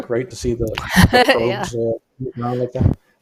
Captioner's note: laughs